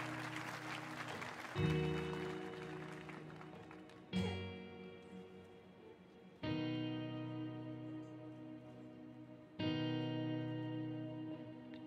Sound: cheers and Applause

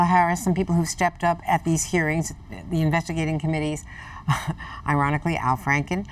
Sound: laughs

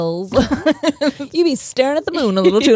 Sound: both laughing

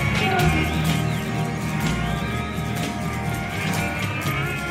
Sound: radio interference

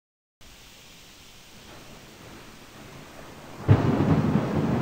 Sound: thunder crashing

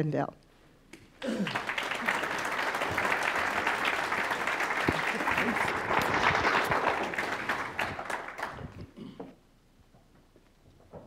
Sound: applause

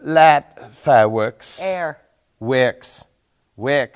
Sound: thick, British accent

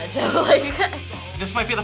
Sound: laughs

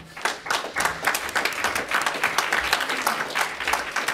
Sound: audience applauding

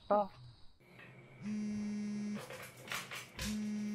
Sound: phone vibrates

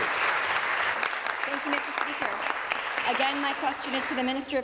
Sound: applause

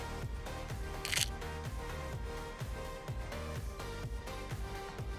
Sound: camera clicking

